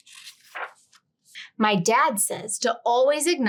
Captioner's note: page rustling